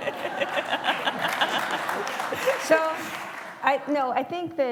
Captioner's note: laughter; applause